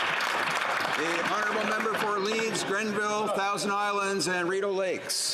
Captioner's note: applause